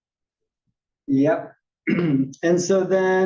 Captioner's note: cough